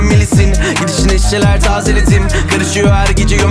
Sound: brr

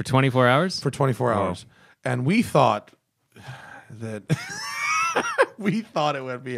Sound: laughter

